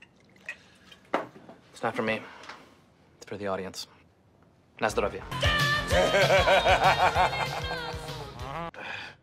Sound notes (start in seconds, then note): 5.2 ABED groans; 5.9 JEFF laughs